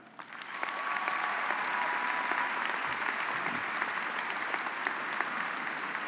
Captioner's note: audience cheering and applauding